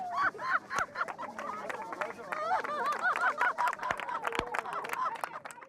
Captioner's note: laughter and applause